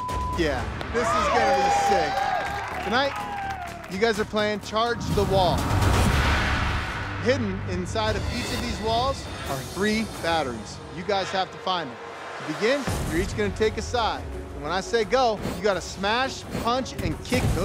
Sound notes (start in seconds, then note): 0.0 beep; 0.9 cheering